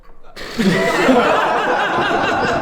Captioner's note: loud laugh